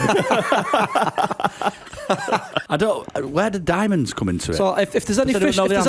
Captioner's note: laughter